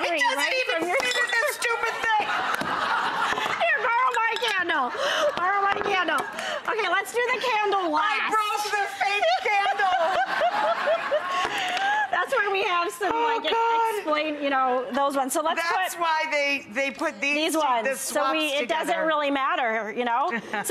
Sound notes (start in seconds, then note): 1.5 audience laughing; 8.7 both laughing